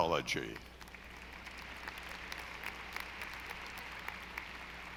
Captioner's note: audience applauding